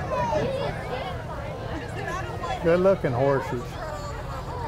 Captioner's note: laughs; chattering continues